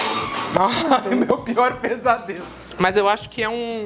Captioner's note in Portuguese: rindo